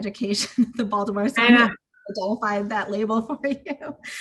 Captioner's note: laughs